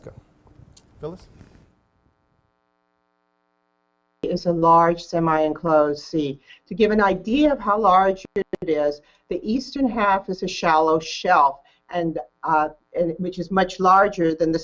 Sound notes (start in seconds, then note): 2.4 audio cut off